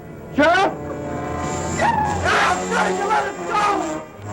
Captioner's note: screaming